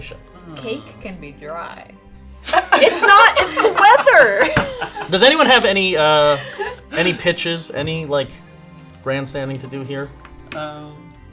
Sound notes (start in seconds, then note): 2.4 laughing